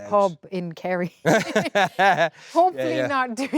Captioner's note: both laughing